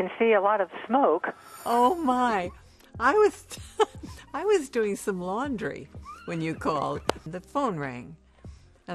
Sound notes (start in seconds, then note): 4.0 laughs